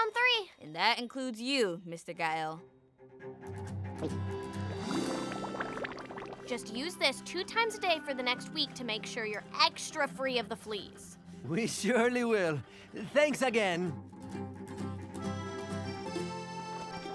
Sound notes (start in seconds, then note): 3.3 swallowing; 4.8 bubbles popping